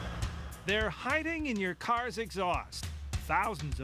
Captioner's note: voiceover